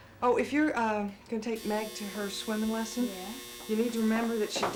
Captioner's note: buzzing